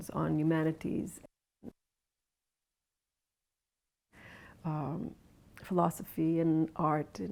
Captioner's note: 0:24:34 audio drops out for 3 seconds